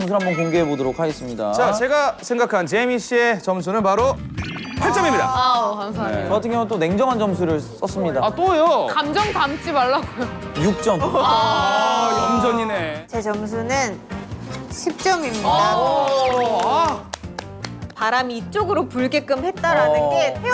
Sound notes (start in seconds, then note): 16.0 sincere applause